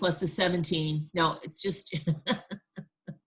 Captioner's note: laughing